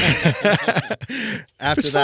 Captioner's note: laughing